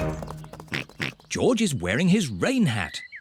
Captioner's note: oinks